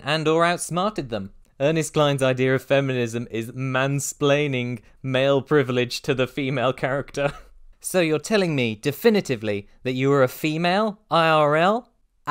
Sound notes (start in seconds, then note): 7.2 chuckle